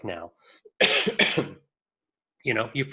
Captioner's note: coughs